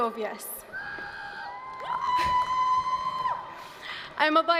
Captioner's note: cheers